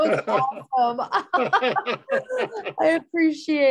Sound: laughter

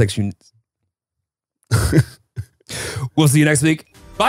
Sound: laughing

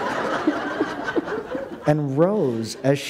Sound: laughter

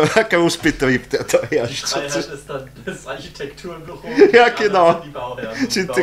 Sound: amid laughter

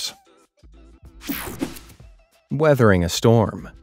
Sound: screen whooshing

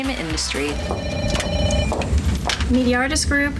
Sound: phone rings

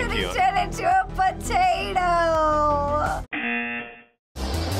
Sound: buzzer

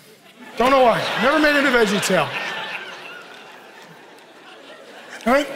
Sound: congregation laughing

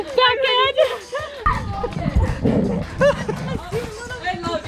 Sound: laughter

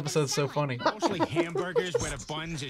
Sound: laughs

